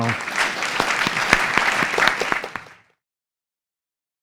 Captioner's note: crowd applauding